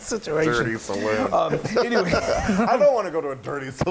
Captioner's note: laugh